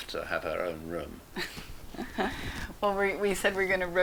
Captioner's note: laughs